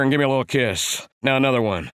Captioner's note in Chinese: 模仿貓王口音